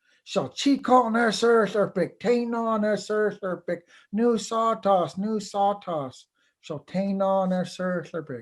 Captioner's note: foreign Language